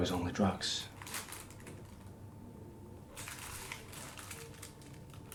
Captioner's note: paper bag crinkles